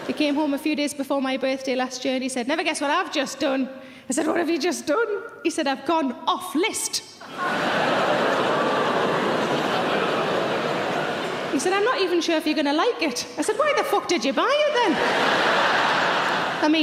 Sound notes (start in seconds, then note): 7.3 laughing; 14.9 laughing